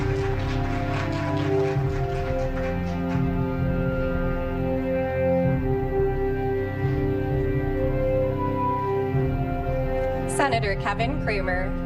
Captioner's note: applause